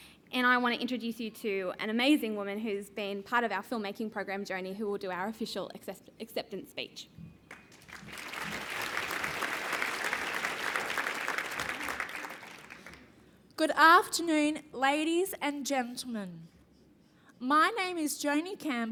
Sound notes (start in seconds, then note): 7.4 applause